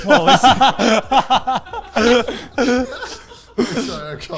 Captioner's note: all laughing